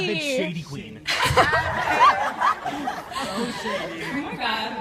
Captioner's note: audience laughs